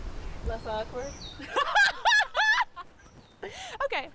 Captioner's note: laughs